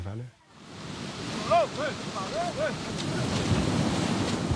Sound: waves crashing

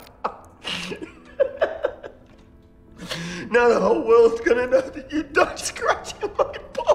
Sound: laughs

